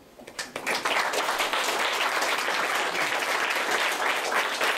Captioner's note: applause